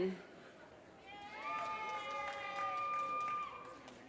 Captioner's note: audience cheers and applause